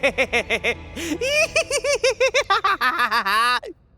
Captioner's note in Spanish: Risa malvada; risa de payaso tonto